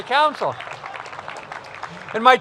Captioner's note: applause